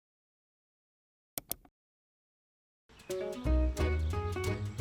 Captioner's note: keyboard taps; mouse clicks; playful music